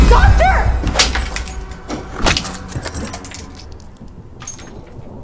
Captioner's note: dramatic music; glass shatters